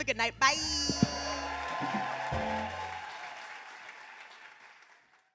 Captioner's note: audience cheering; audience clapping